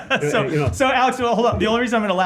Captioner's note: laughter